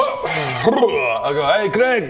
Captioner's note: hrblelelele; hrgh